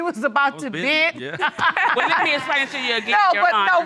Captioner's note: laughs